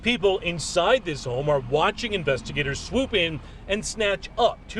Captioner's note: car backing up